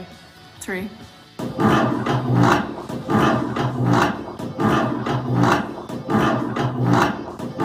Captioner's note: longer sound of chair being dragged on ground